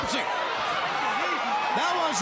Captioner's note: crowd cheering